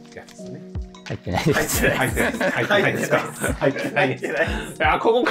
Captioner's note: laughing